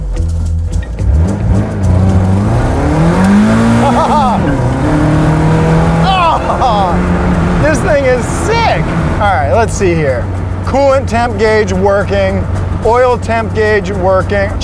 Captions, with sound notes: (car engine revving) (laughing) This thing is sick. Alright, let's see here. Coolant temp gauge working, oil temp gauge working,